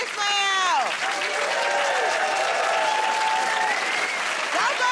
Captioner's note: cheers and applause